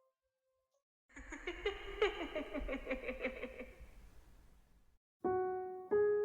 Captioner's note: laughs